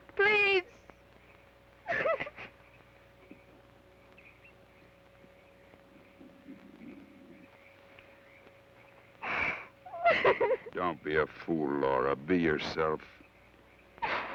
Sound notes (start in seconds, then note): 1.8 sobs; 9.2 sobs